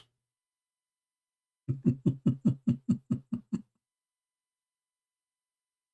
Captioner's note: Ketawa